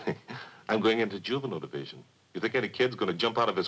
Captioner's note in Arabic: يضحك